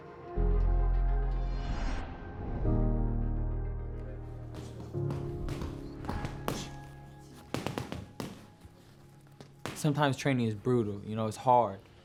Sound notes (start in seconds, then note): 0.1 soft piano music; 4.5 blows landing